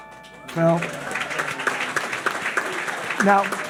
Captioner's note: audience applauding